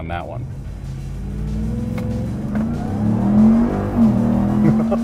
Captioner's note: engine whooshing; laughs